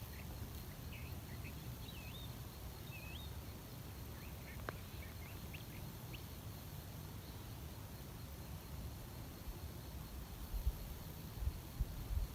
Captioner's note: voices in background; birdsong in background